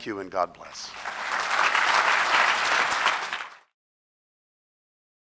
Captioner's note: audience clapping